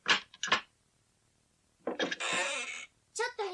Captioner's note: SFX: door opens